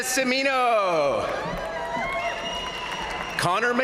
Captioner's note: crowd cheering; crowd applauding